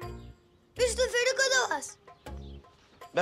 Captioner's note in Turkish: Almanca konuşma